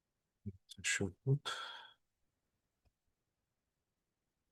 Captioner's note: sigh